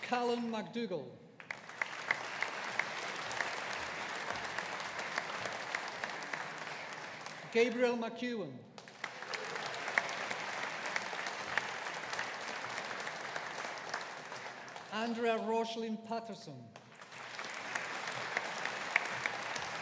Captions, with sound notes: Callum Macdougall. (AUDIENCE APPLAUDING) Gabriel McKeown. (AUDIENCE APPLAUDING) Andrea Roslyn Paterson. (AUDIENCE APPLAUDING)